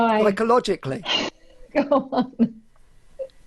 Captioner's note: laughing